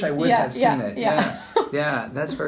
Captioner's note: laughs